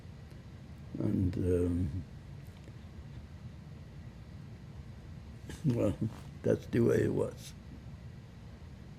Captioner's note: laughing